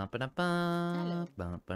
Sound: humming

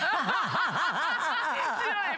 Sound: laughter

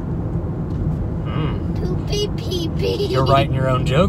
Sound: laughing

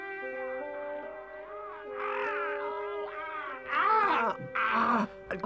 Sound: Chief Weasel yelps faintly; Chief Weasel winces loudly

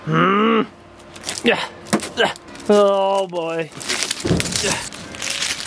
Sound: struggling noises

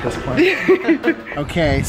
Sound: giggling

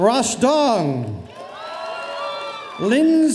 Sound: audience cheering

